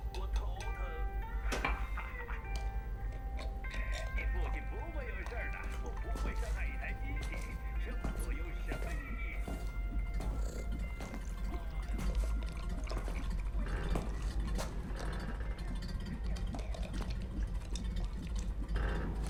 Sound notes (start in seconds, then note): 3.0 screwing lid on; 6.0 footsteps; 10.3 cat purring